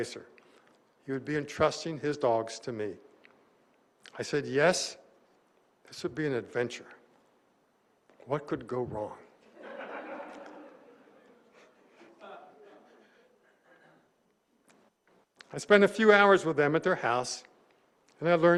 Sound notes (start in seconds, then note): 9.4 laughter